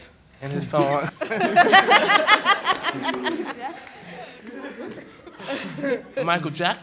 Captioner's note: laughter